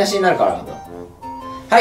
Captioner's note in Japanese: 小声